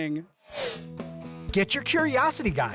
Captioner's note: air whoosh